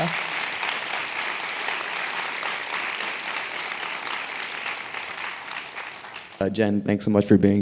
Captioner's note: applause